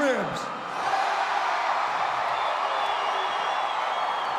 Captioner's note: audience cheers